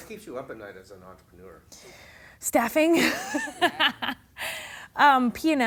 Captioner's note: laughing